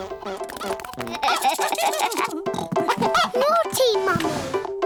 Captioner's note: giggling